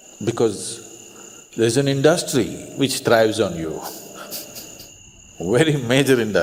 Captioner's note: laughs